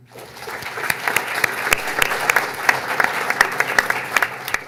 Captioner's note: audience applauds